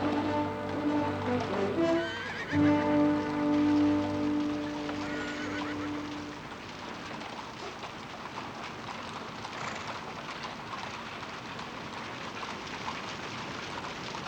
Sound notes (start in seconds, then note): 1.4 whinnying